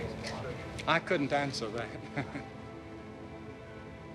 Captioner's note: chuckles